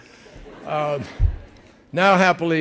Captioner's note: laughter